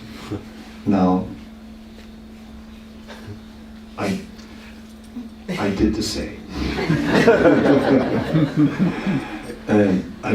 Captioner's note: laughter